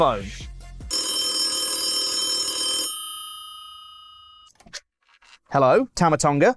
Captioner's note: phone ring sound effect